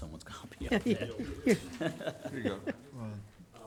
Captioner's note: all chuckling